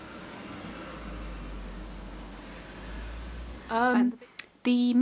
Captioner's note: car noise